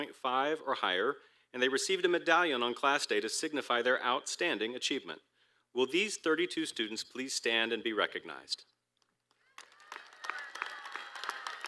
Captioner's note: applause